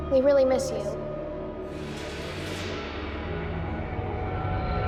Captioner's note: whooshing